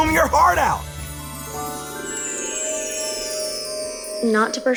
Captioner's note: chiming